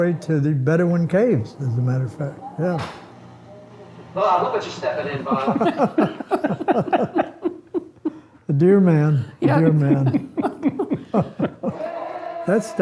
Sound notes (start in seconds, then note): 5.1 laugh; 9.4 family laughs